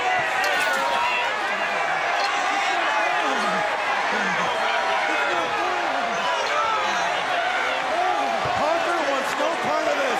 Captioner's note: crowd chatter